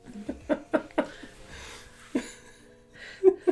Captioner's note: laughter